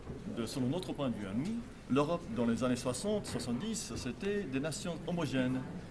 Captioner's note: speaking French